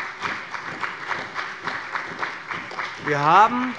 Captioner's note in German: Beifall bei dem BÜNDNIS 90/DIE GRÜNEN und der CDU